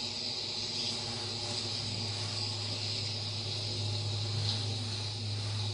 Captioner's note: bee buzzing sound